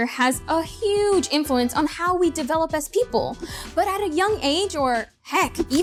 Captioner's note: none